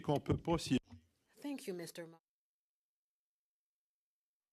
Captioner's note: speaking FRENCH